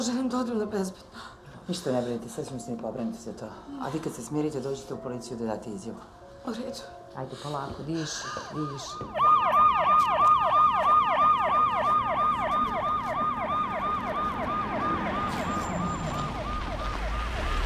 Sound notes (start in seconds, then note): 9.5 siren wailing